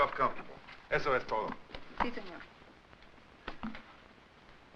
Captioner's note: speaks Spanish